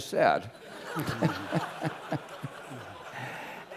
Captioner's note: laugh